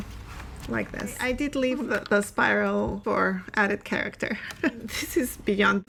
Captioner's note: laughs